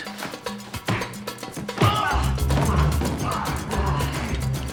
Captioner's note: grunting